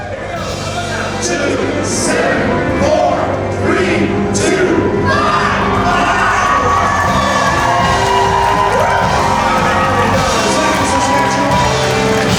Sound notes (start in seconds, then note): 1.9 crowd; 5.5 crowd cheers and applauds; 9.4 rock music plays